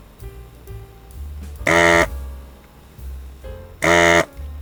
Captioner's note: motor whirring